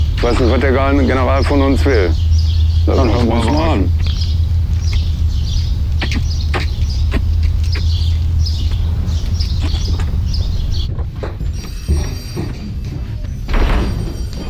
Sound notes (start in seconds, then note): 10.8 telephone, babble of voices